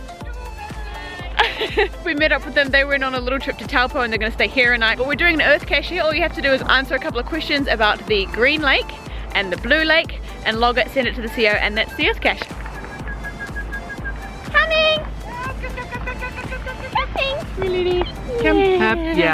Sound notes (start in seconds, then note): 12.5 the man whistling at the lady